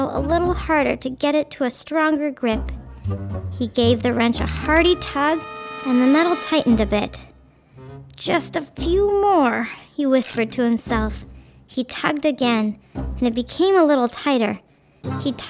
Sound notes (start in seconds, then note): 7.4 tense music; 10.2 wrench ratcheting